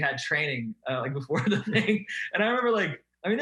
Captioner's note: laughing